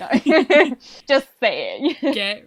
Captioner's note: laughs